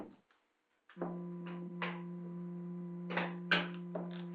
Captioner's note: machine buzzing